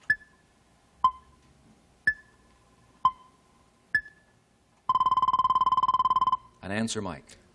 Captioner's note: timer dinging